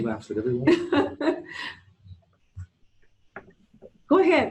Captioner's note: laughing